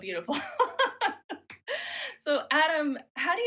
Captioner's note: laughs